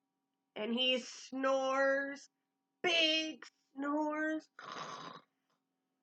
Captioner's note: snore sound